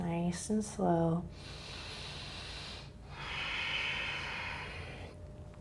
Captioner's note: breathing heavily